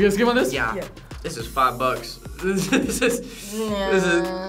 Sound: laughs

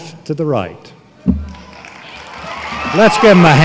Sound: applause

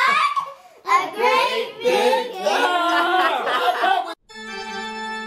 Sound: laughs; organ music

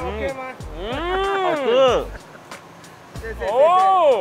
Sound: speaking in foreign language

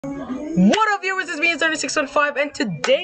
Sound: clap

